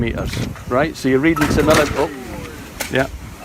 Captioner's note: big crash…